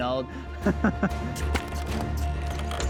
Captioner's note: laughter